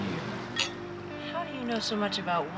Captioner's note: glasses clinking